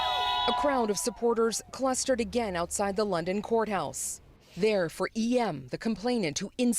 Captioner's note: cheers and Applause